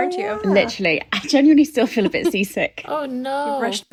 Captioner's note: laughing